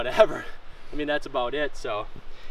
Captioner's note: cameraman and laugh